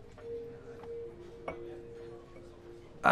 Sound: glasses clinking

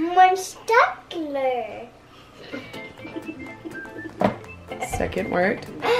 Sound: giggles

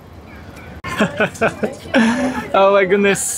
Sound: chuckles

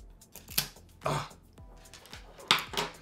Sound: sighs; laughs

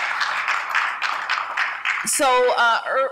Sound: applause

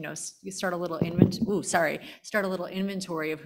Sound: microphone feedback

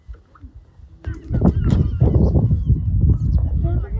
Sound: wind

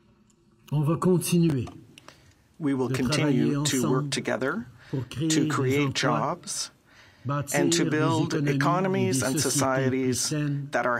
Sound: speaking French

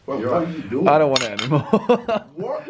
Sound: laughing

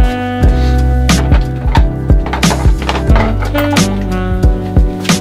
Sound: rollers clattering

